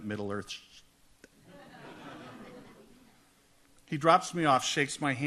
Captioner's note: audience laughs